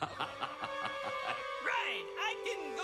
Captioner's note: laughs